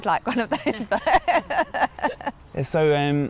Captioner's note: laughing